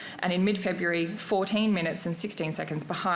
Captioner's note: none